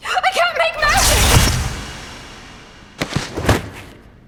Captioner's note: magical whoosh; body drops